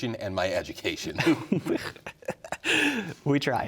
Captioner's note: both laughing